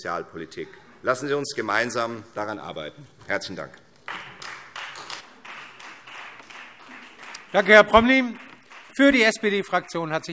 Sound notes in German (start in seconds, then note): 4.0 Beifall Freie Demokraten